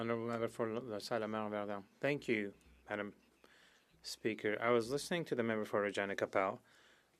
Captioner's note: speaking French